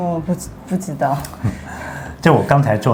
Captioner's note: laughing